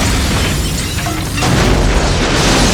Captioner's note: gunfire; explosion